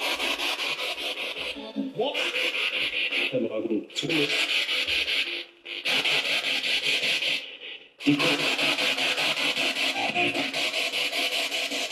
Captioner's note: radio noise from the spirit box